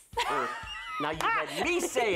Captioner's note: laughs